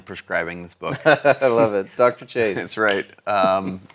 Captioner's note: laughs